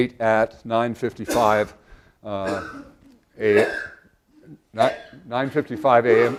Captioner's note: cough